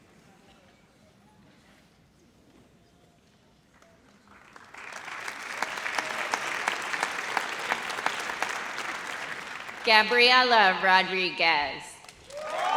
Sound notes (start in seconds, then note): 3.8 audience applauds; 12.2 audience cheers